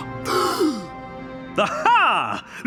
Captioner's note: gasping